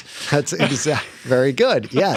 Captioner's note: laughter